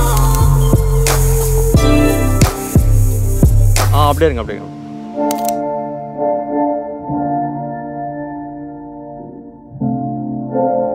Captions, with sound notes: Ah be like that itself [Shutter clicking]